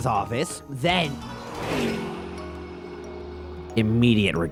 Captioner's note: vroooooooooooom